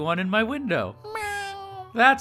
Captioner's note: meow